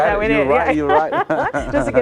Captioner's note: chuckling